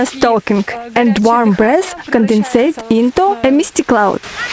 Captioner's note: laugh